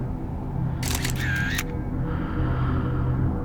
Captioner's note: shutter clicking